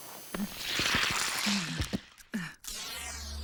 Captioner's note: straining